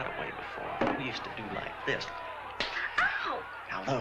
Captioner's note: slap